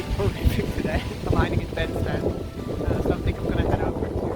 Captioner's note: wind noise